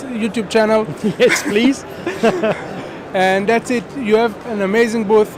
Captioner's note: laughing